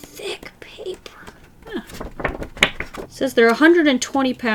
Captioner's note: paper wobble